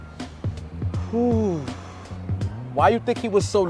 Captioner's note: deep exhale